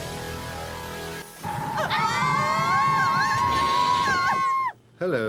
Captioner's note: girls screaming